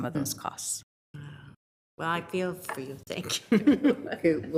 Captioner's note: chuckles